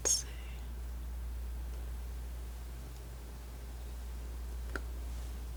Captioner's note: scratching